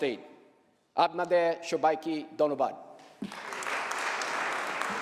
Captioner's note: applause